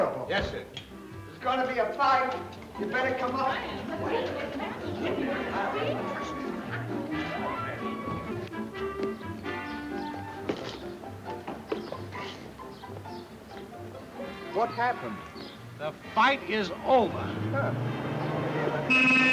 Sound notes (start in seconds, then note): 0.9 gentle music; 2.4 people chattering; 3.8 gentle music; 8.5 birds chirping; 9.4 gentle music; 17.0 engine revving; 18.2 horn honking; 19.1 gentle music